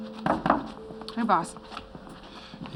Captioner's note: knocking